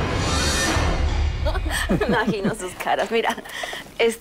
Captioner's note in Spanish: Risas